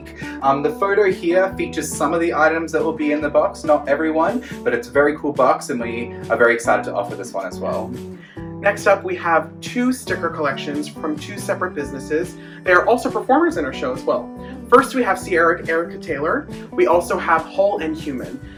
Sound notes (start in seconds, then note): none